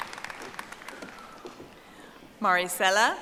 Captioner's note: audience applauding